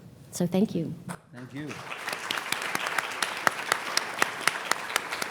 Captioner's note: audience clapping